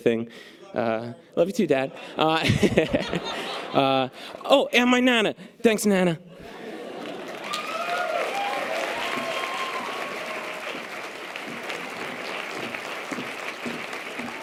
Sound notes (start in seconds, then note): 1.9 laughs; 6.6 audience applause and cheers